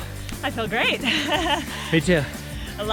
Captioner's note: laughs